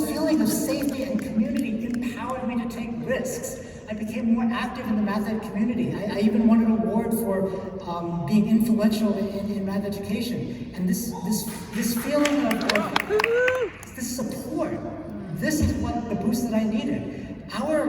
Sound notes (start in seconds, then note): 0.0 snapping fingers; 11.4 cheers and applause